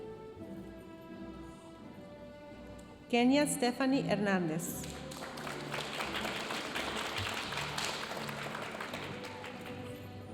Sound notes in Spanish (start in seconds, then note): 4.8 aplausos de la audiencia